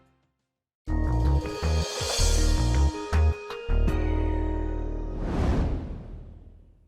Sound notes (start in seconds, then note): 0.9 soft electronic music; 5.1 graphics whoosh